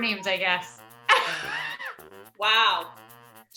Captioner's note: laughing